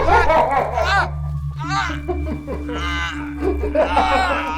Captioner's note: Isaac groaning